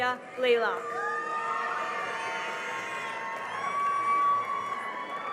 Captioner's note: cheering and applause